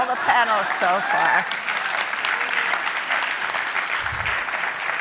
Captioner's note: audience applauding